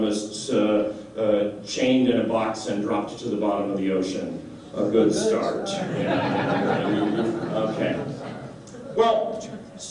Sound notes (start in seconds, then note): 5.8 laughter